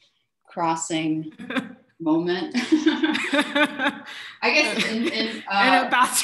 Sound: shared laughter

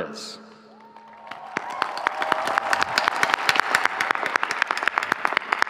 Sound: audience cheering

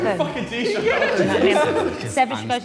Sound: Sidemen laughing

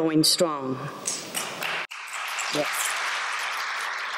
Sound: applause

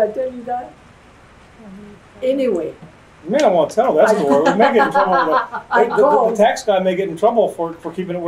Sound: laughter

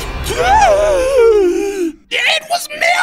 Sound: Goofball gasps for air

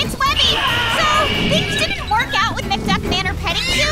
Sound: animal growls

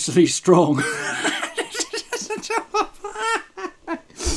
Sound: laughs

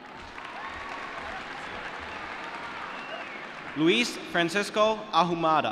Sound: cheering

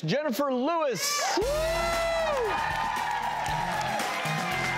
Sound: applause

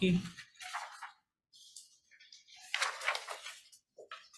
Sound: pages riffling

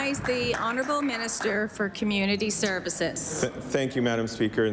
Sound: applause

